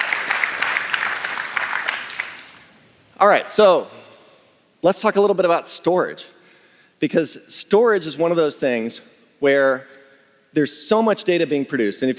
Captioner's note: applause